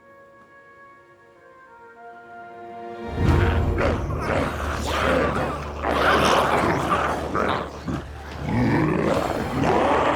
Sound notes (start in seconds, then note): 0.2 gentle music; 3.1 glowzies growling; 3.2 dramatic music